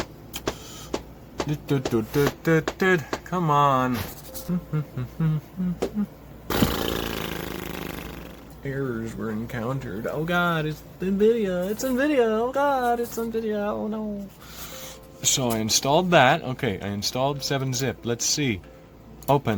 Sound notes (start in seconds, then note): 0.2 more scatting; 4.3 blowing raspberries; 4.3 humming